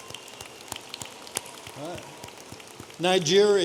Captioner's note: audience applauding